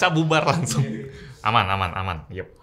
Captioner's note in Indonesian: Tertawa